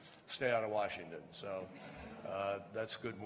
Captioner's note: laughter